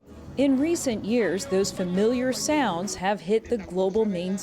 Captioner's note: voice-over